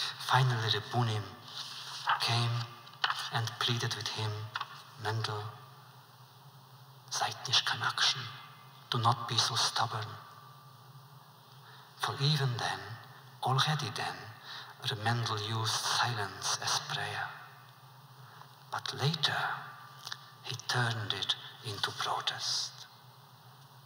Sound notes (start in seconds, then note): 6.1 foreign language